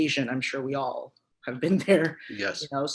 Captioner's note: chuckles